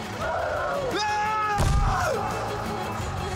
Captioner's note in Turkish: Bağırıyorlar